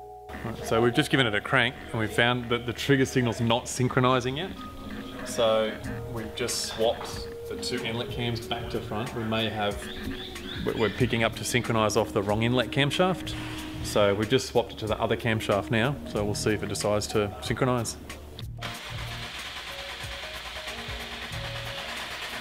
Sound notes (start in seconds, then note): 18.6 engine turns over